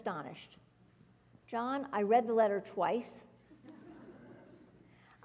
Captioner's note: laugh